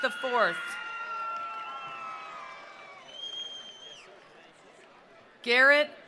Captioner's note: attendees cheering; attendees applauding